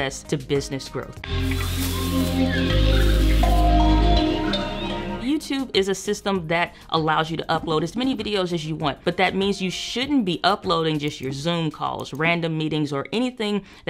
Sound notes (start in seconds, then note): 0.8 safari music; 1.4 birds trilling